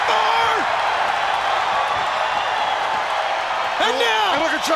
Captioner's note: crowd cheering